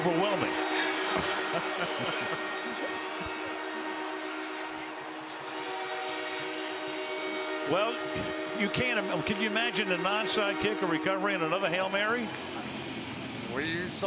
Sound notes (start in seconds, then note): 1.0 laughter; 4.3 air horn